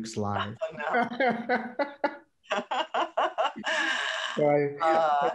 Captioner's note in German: laughter